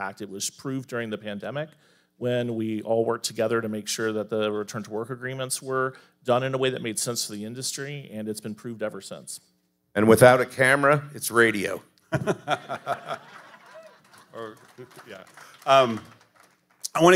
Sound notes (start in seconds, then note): 12.1 panelists laughing; 15.2 audience applauding